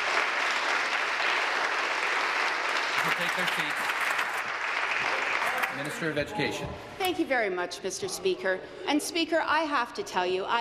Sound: applause

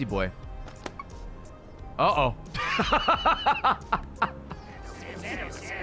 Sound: laughs

